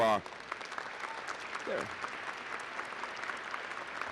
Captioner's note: applause